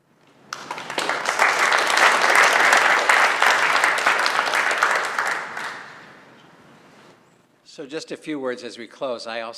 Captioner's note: applause